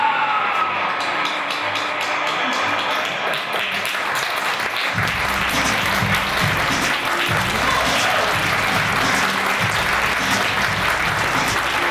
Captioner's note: cheers and applause